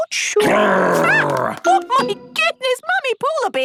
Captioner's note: loud growl